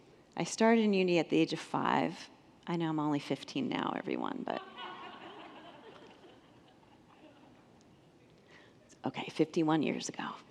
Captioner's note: congregants laugh